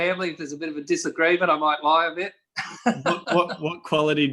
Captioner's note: chuckles